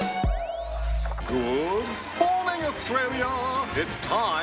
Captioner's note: cheering, applause